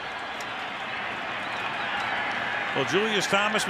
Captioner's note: whistle